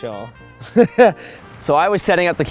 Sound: laughs

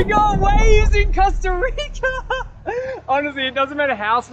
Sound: laughs

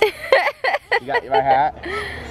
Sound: laughing

